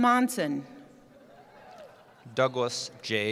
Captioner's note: cheering